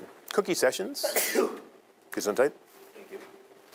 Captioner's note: student sneezing